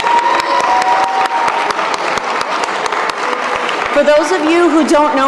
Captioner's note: applause